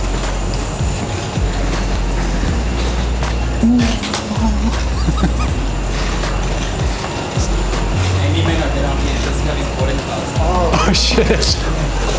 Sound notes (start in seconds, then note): 0.3 soft dreamy electronic music; 5.3 laughing